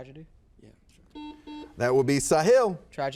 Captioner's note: buzzer buzzes